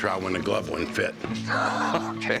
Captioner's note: laughing